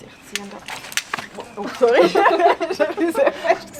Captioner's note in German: Lachen